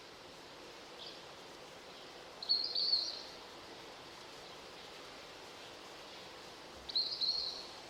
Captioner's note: birds chirping